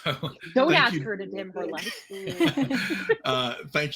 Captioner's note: laughs